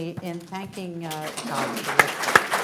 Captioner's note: applause